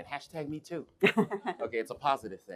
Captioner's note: laughing